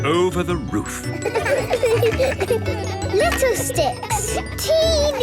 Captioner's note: laughter